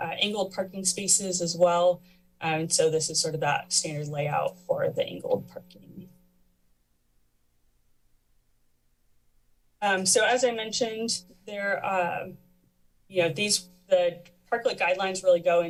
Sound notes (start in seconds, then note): 6.1 pause